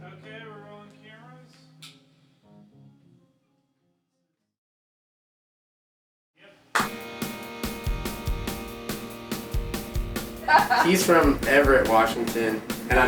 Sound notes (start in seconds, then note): 6.7 hands clap; 6.8 upbeat music; 10.4 laughing